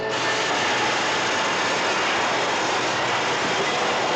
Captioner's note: hissing